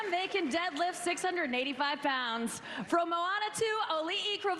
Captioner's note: cheers and applause